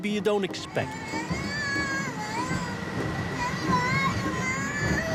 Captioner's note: crying